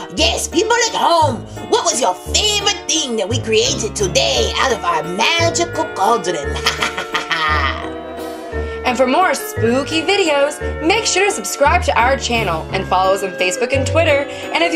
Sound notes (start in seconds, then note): 6.5 laughs evilly